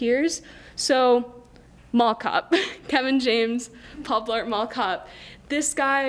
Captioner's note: laughs